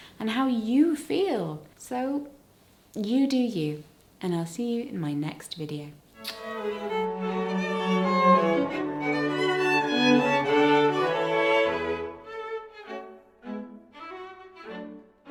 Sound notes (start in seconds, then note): 12.7 kiss